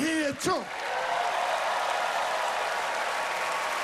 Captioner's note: cheering and applause